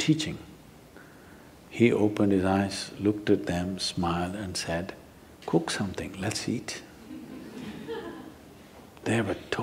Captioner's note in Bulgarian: смях